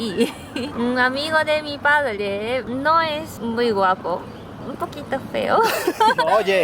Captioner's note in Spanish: ríen